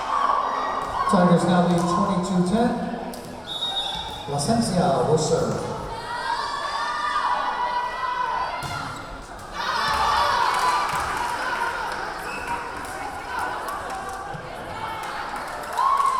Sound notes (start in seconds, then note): 6.5 yelling; 10.9 clapping; 10.9 yelling; 15.9 cheering